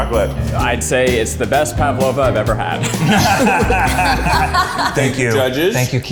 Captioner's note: laughter